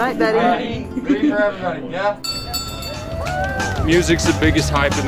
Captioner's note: bell ringing